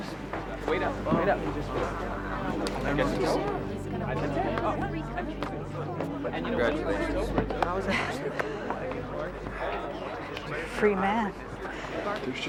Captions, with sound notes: - Thanks. - Wait up, wait up. (crowd chattering) - Congratulations. - Free man.